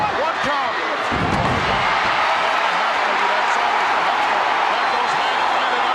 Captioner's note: audience cheering